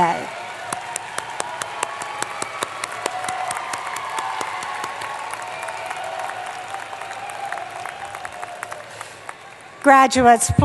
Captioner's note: applause